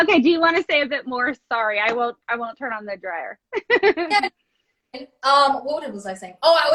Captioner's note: laughs